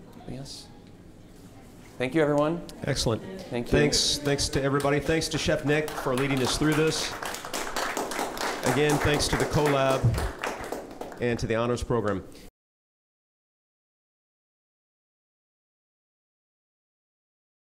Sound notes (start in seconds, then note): 7.1 everyone clapping